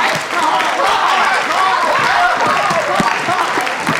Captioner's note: chorus shouts Pie, pie, pie